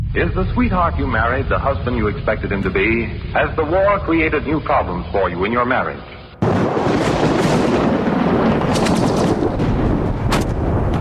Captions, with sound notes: Is the sweetheart you married the husband you expected him to be? Has the war created new problems for you in your marriage? [Thunder]